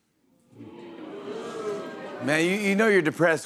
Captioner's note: audience exclaims